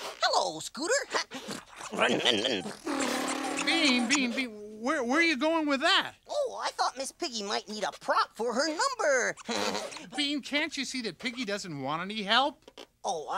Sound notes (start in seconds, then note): 8.4 laughs